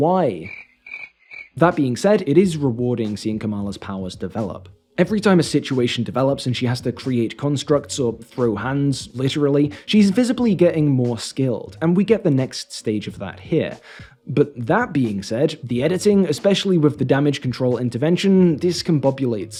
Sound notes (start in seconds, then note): 0.4 crickets